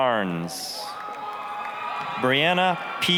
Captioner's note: applause, cheering